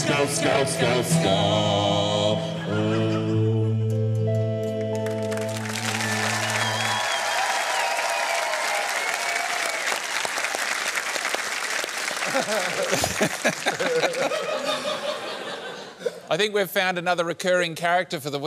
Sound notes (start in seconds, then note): 5.7 applause; 12.2 laughter